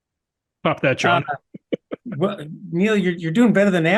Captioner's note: laugh